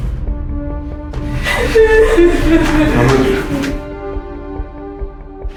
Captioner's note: Raquel sobbing